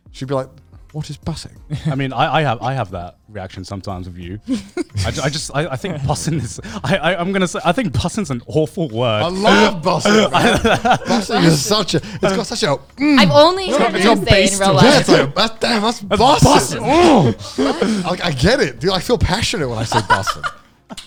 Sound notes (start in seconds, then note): 9.2 laughing; 17.7 laughing